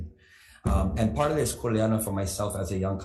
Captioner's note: speaks foreign language